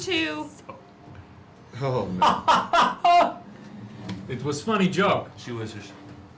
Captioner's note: laughs